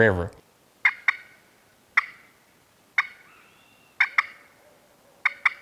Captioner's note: turkey call yelping